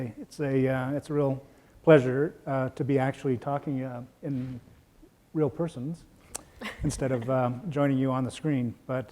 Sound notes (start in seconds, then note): 6.4 laughs